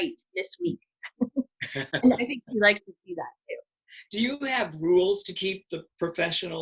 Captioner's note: laughs